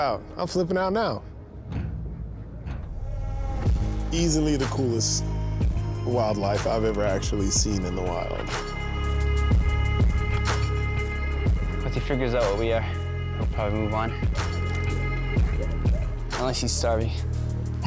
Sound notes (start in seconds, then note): 1.5 mellow music; 14.2 dogs barking